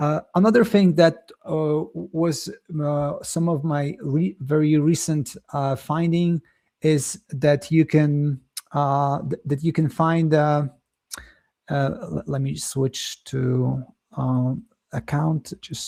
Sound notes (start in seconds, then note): 8.3 lips smack